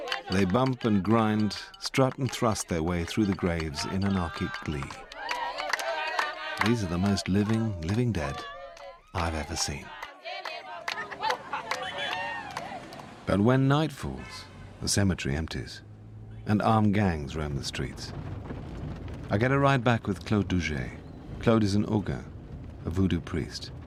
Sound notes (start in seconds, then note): 4.9 crowds claps rhythmically